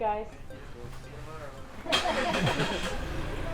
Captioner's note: laugh